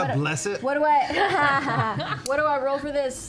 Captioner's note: laughter